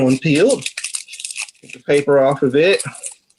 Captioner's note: shallot peel rustling